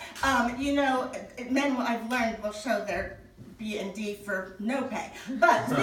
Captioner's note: audience laughing